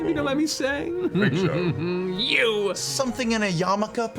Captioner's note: chuckles